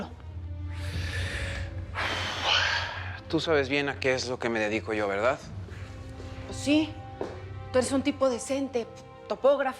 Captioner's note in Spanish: él resopla